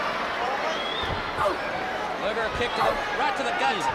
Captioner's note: crowd chatter